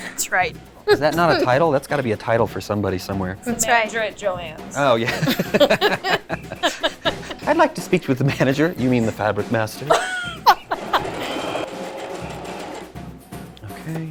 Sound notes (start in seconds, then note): 4.8 laughing; 9.8 laughing; 10.7 sewing machine whirring